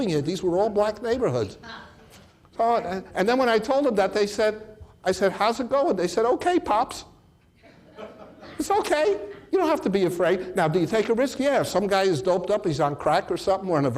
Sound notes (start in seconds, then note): 7.6 audience laughs